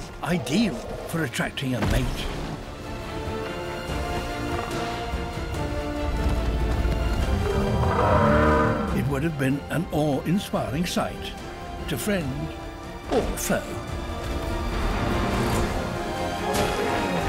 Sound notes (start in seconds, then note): 7.4 roar; 14.0 exciting music